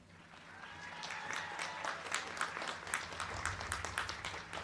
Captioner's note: crowd cheering